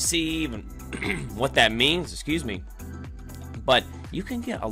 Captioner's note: coughs